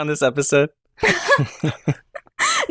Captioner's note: laughter